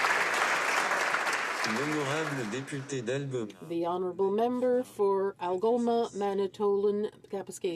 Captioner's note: applause